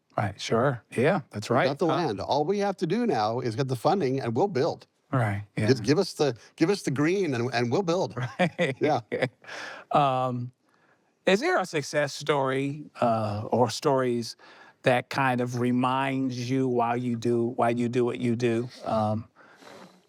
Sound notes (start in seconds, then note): 8.1 both laughing